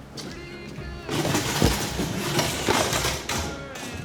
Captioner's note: chair thuds